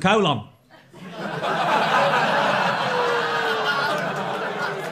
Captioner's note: crowd laughing